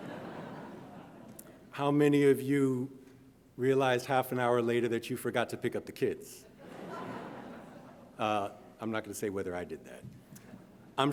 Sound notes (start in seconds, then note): 0.0 audience laughing; 6.6 audience laughing